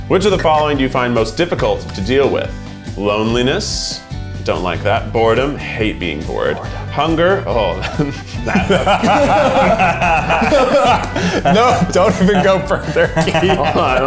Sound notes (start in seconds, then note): 7.8 all laugh; 11.4 laughing